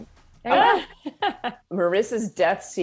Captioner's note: Melinda laughs